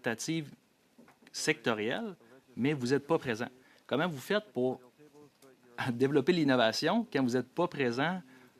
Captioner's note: speaking French